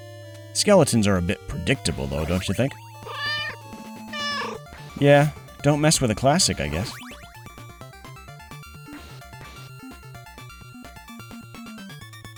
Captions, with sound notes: Skeletons are a bit predictable, though, don't you think? (Meow) Yeah. Don't mess with a classic. I guess.